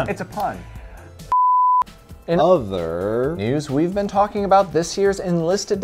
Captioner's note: loud beep